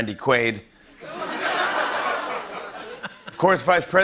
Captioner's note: laughter